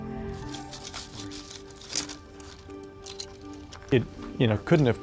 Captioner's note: pole scratching